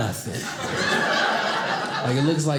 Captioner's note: audience laughing